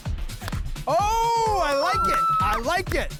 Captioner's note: bat strikes ball